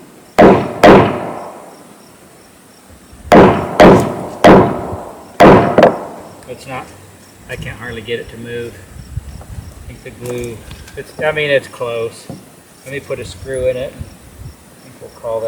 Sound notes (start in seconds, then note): 3.3 sound of hammering